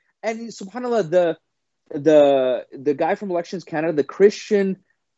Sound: laughing

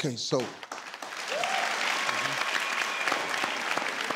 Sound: clapping

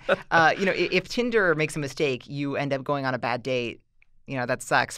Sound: chuckle

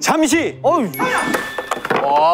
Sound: ding dong

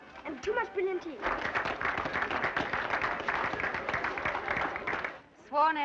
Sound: crowd clapping

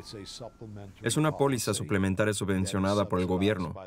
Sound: sirens blaring

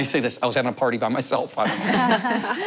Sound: laughter

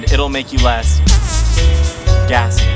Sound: farting noise

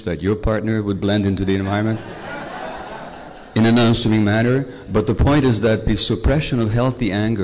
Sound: laughter

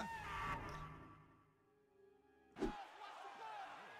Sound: screaming; cheering and clattering

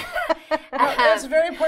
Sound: laughter

